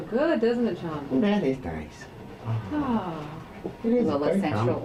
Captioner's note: sighs